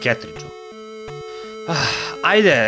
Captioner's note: sigh